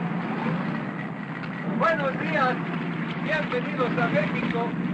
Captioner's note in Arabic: يتحدث الاسبانية